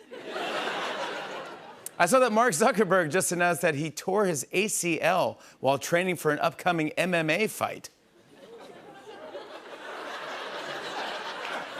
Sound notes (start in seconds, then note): 0.0 laughter; 8.2 laughter